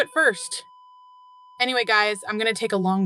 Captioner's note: flatlining in distance